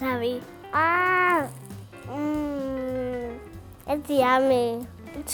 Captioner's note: exclaims